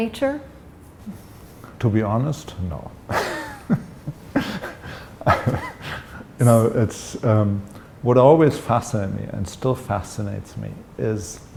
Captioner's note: laughter